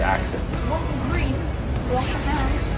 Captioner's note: in a British accent